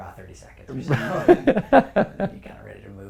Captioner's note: laugh